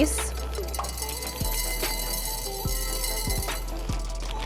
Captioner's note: beads clanking